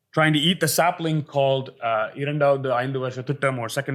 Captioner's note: hindi